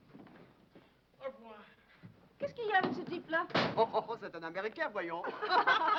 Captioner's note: speaking foreign language; women laughing